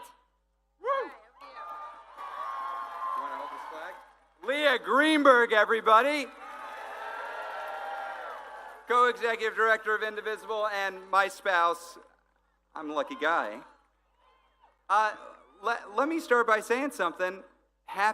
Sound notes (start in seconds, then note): 2.3 cheering; 10.1 applause